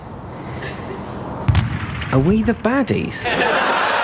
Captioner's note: distant booming; audience laughing